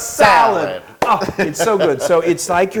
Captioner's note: laugh